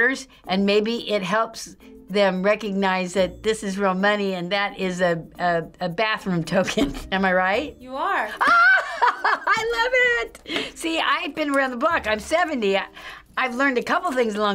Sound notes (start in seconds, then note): 8.4 laughs